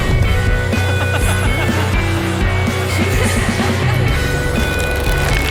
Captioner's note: laughing